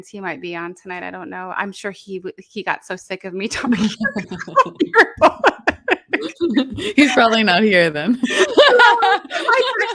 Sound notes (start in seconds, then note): 3.6 presenters laughing